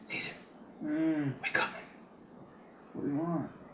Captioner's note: groaning